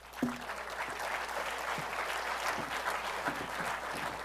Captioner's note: applause